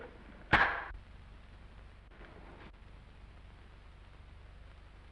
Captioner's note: clapperboard slams